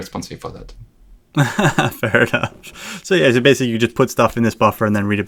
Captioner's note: laughs